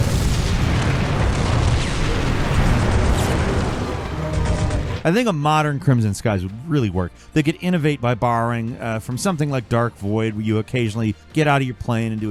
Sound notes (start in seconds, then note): 0.0 plane exploding; 2.1 guns firing